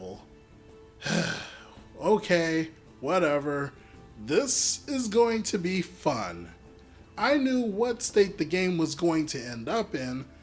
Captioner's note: sigh